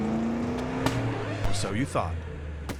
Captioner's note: car pops; record scratching